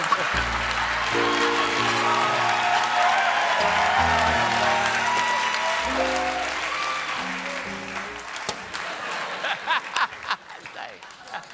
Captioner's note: laughter; applause; laughter